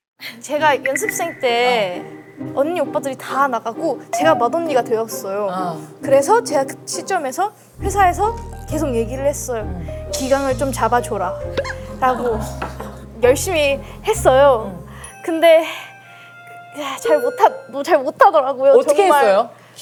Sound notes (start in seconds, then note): 11.6 haha